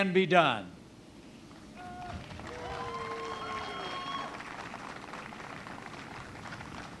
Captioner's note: applause